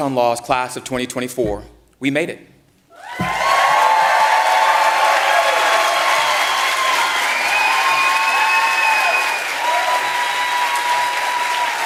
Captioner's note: applause